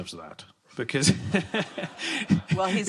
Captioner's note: laughter